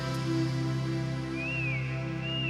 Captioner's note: whistle